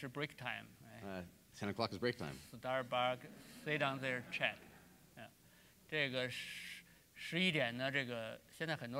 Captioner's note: speaking in Chinese; speaking in Chinese